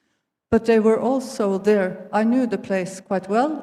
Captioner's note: none